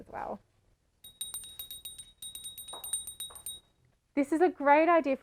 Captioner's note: ringing bell whilst dancing